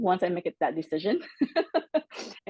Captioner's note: laugh